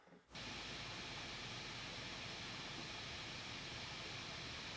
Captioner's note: static hissing